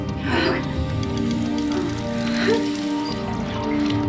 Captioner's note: Nancy moaning; suspenseful music